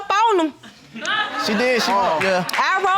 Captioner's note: audience laughs